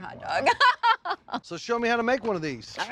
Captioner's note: chuckling